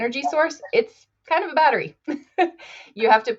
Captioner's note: chuckles